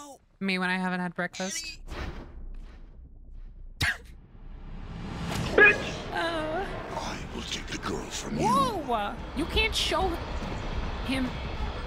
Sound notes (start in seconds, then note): 3.7 chuckles; 5.3 car smashes; 5.6 Regular Show "Bitch!" sound